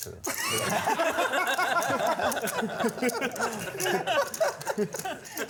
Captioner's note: laughter